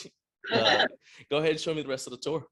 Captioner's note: laughing